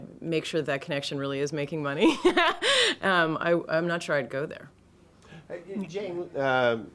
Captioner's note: laughs